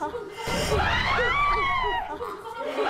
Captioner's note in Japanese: わぁっ